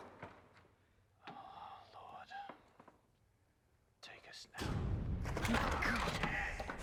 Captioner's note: loud bang